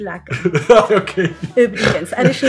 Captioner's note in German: er lacht